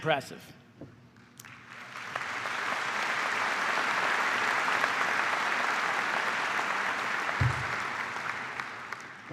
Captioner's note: applause